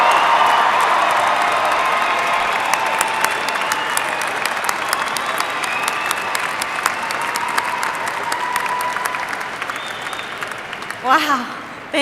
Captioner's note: cheers and applause